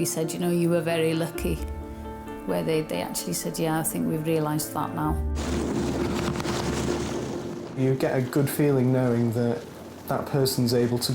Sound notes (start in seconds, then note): 5.3 water splashing; 5.4 uplifting instrumental music